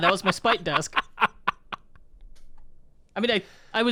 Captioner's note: chuckling